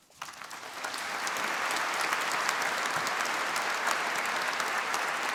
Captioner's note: applause